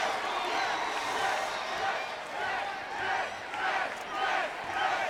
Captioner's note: audience chanting